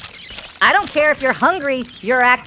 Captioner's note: dragon hatchlings scream